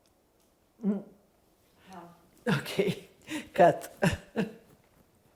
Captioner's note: laughing